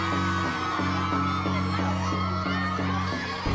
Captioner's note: kids cheering